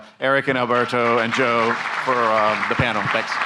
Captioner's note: audience applauding